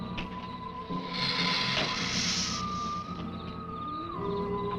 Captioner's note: lizard hissing